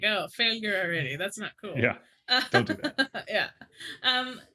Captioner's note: laughs